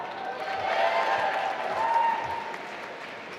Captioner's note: applause